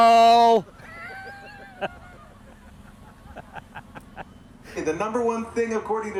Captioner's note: crew laughing